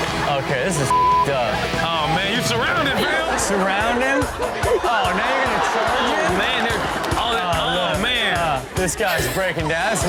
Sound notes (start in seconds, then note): 0.1 audience laughs; 0.8 beep; 2.3 audience laughs